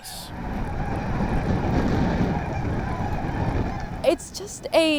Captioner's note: birds chirping